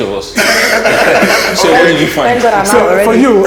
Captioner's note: judges Laughing